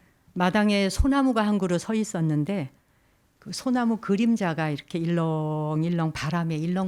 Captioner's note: speaking in Korean